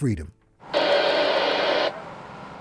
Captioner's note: radio static